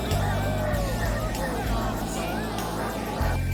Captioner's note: group chattering